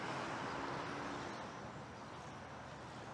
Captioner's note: traffic rumbling loudly